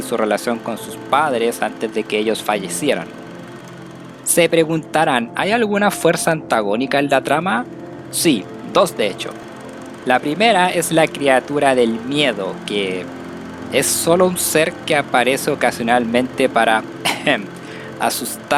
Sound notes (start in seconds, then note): 17.0 ahem